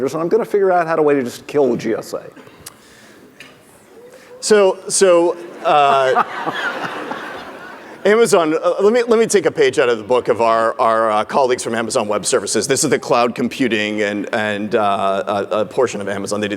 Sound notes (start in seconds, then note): 5.1 audience laughing